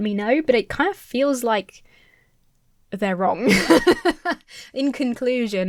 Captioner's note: laughs